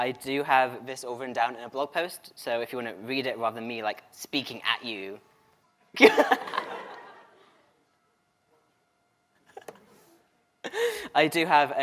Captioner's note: laughter